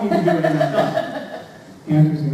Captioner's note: audience member laughs